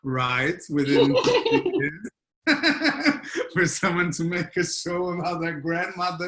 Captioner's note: laughter